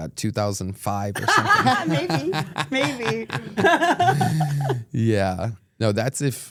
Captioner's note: group laughs